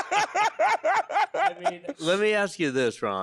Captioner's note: laughing